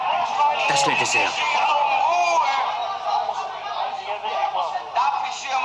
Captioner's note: shouting